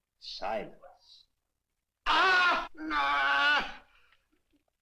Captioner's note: yelps, Groans; strained